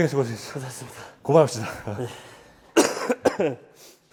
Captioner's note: A cough signaling the end